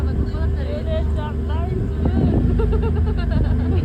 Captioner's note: shivering and crying from the cold